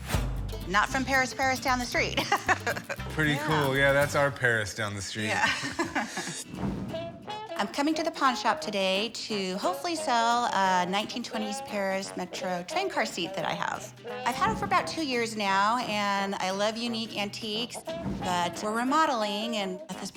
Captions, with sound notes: Not from Paris, Paris down the street. [laughs] - Pretty cool. Yeah, that's our Paris down the street. - Yeah. [laughs] I'm coming to the pawn shop today to hopefully sell a 1920s Paris Metro train car seat that I have. I've had it for about two years now, and I love unique antiques, but we're remodeling, and at this point we could probably use